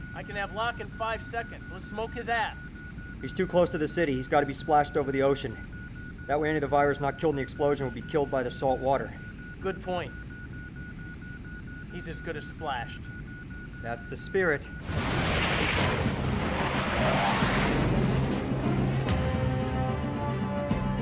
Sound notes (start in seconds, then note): 14.8 aircraft whooshing; 14.9 intense, dramatic music